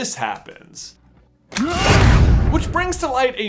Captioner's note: yells